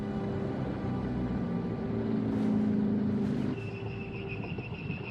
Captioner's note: tense music; engine roaring; brakes screeching